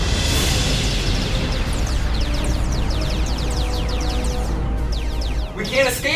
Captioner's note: spaceship whooshing; lasers whooshing; dramatic music